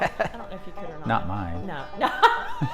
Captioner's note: laughs